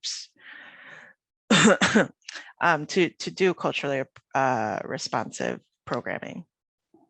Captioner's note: coughing